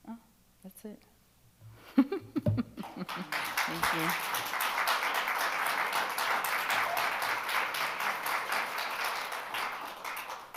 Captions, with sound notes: Oh, that's it. (chuckles) Thank you. (attendees applaud)